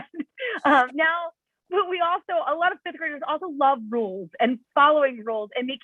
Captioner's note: laughter